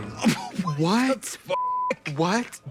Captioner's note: beep